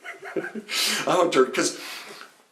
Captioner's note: laughs